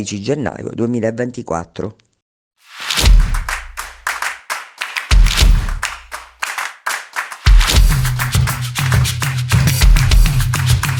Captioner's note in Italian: Applauso